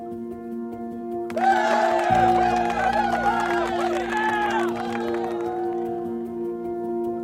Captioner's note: cheering and applause